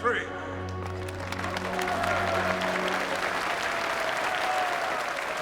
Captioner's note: applauding, whistling